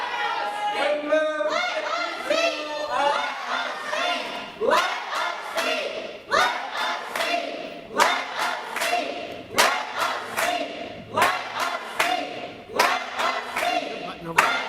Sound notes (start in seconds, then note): 0.0 audience yelling; 10.3 audience chanting let us speak